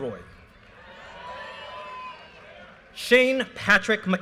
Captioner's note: audience cheers and applause